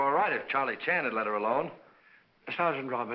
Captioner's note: none